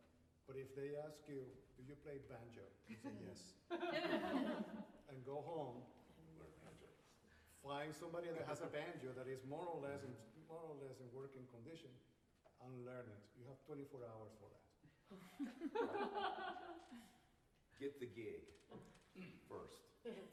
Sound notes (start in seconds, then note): 3.7 laughter; 15.2 laughter